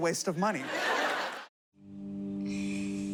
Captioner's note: laughter